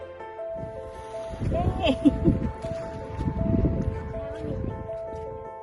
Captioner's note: laughing